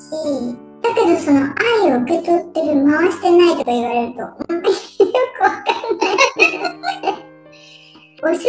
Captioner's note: laughs